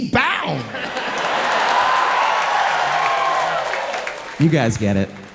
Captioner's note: audience clapping